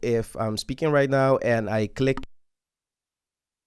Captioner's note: click sound